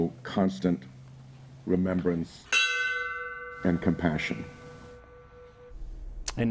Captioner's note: bell tolls